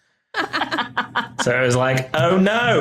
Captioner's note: laughing